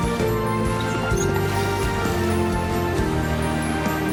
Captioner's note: mongrel whimpers